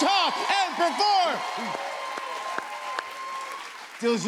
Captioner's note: cheers and applause